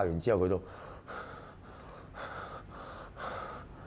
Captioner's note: panting